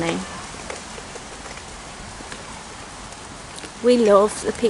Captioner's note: sound of my wheels on the wet ground